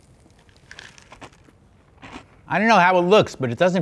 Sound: cereal rattling; crunching cereal

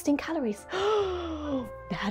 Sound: gasp

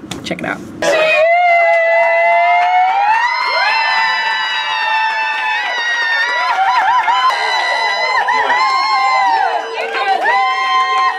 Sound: cast clapping and cheering; all chanting

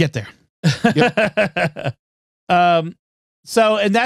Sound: laughter

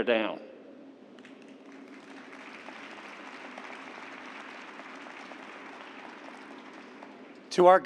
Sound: applause

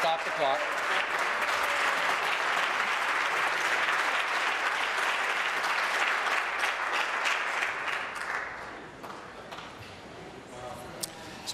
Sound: applause

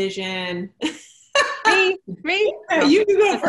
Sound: laughs

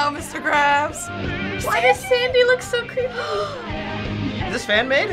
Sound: gasping

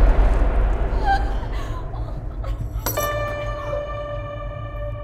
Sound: whimpering

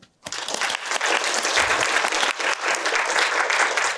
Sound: applause

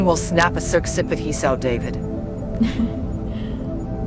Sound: giggle

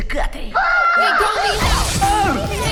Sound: all screaming; yelling

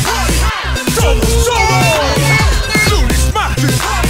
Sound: baby Talk

